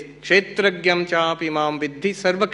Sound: non-english speech

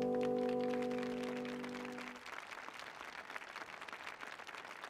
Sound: applause

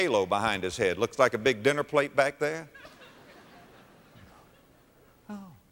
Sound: audience laughter

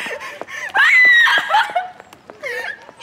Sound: crying

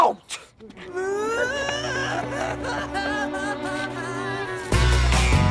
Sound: starts crying, again!

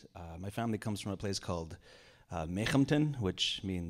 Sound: speaking in Indigenous language

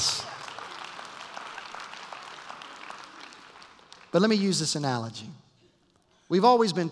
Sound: applause

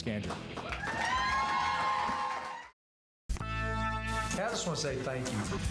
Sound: applause and cheers

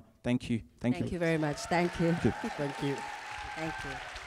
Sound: audience applause and cheering

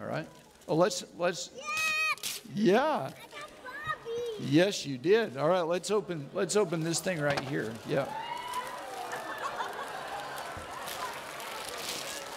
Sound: audience laughing

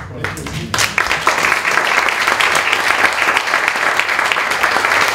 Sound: applause

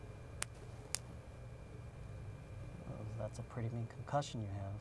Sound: light clicks

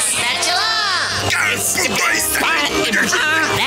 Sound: stuttering

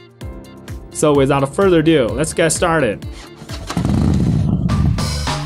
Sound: engine start sound

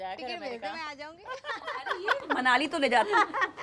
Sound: laughing

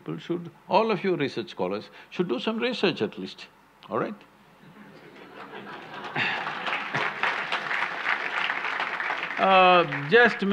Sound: laughter/Applause

